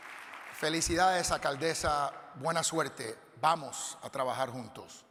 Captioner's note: audience applauding; speaking Spanish